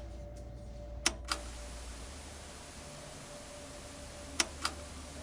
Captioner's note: button clicks; gentle tense music